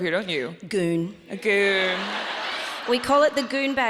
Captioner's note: audience laughs